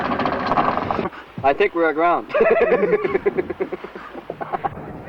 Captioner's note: laughter